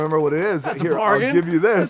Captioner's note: laughs